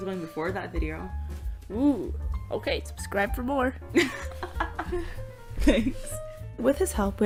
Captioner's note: laugh